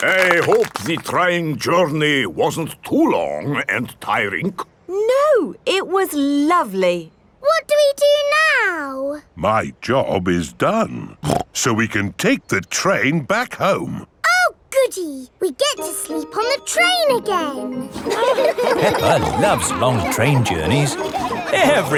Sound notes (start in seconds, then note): 17.8 laughing